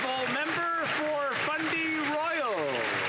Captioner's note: applause